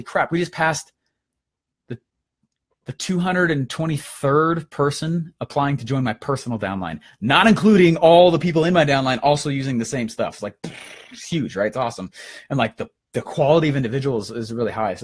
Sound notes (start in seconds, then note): 10.6 air blowing